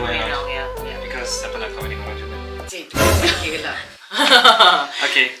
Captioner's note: laugh